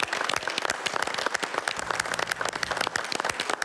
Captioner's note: crowd applauding